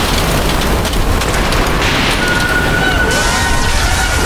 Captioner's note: cataclysmic storm tearing through the ocean